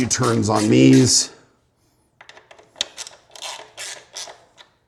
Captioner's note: socket clacking